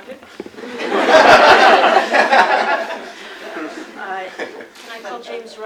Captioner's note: laughter